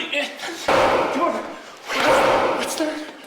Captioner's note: loud banging